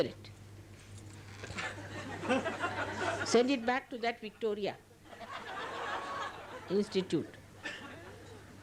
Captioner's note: laughter